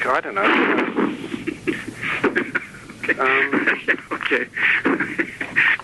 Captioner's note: laughing